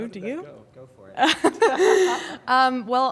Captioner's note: laughter